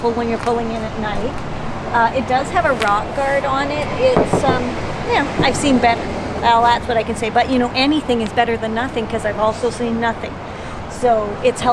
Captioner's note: knocks